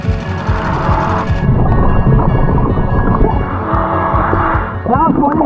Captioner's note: oxygen tank hissing; motor boat whirring; oxygen bubbling in water